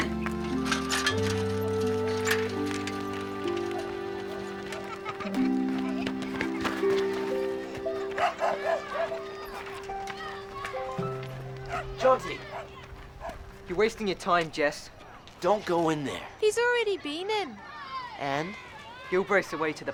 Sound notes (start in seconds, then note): 0.1 soft music; 4.4 children laughing and chattering